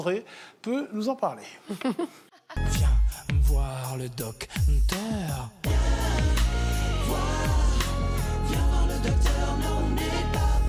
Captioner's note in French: rires; chant